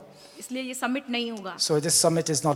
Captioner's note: speaks foreign language